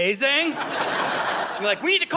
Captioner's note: audience laughing